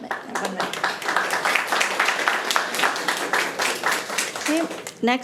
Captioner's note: audience applauding